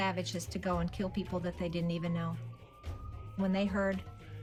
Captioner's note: sirens wailing